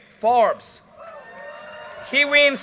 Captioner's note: audience cheers and applause